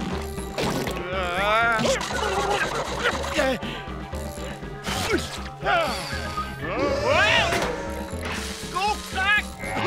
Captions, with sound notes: [groaning] [gasping] Whoa! Go back.